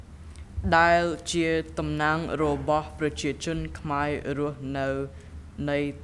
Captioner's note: speaking in a foreign language